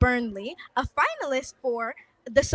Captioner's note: none